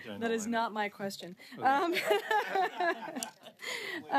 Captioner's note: laughter